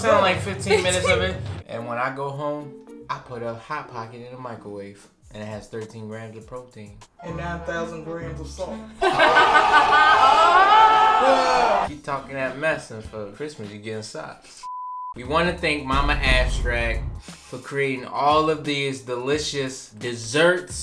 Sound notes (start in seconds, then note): 9.0 laughs; 14.7 electronic beep